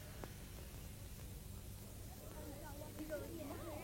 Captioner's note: group chatter